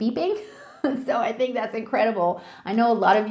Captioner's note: chuckling